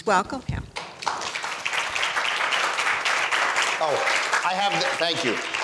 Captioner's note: audience applauds